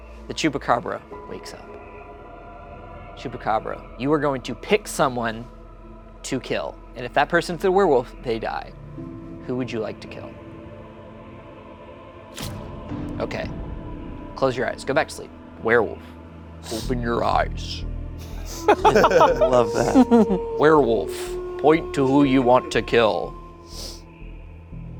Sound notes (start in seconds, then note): 18.3 everyone laughing; 18.6 wolf howling